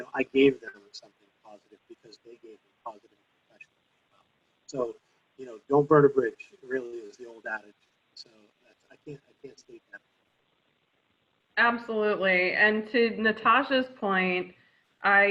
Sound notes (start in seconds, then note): 3.7 faintly speaking